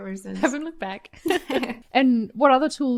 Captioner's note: both laughs